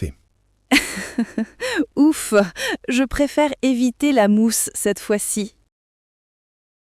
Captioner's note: laughs